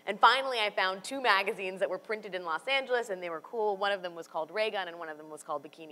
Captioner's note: none